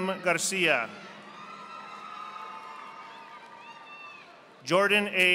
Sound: audience applauding

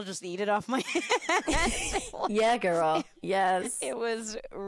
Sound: both laughing

